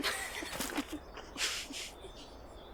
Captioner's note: Ally and Amber laughing